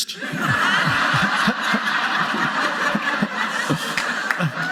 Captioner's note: audience laughing